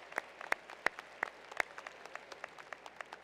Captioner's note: applause